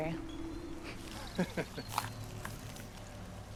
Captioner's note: laughter